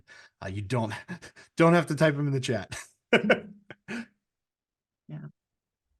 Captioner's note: laughs